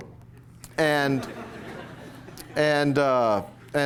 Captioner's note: laughter